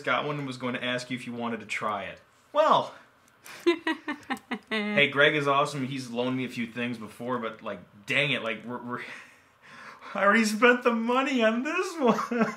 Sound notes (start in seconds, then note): 3.4 laughing